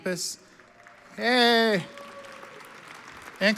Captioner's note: audience applauds